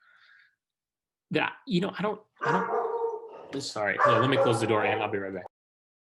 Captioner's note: dog barking